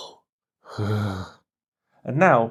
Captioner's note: shudders